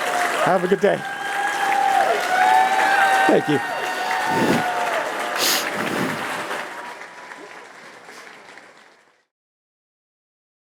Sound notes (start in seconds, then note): 0.0 cheers; 3.6 applause